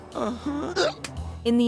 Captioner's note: gasps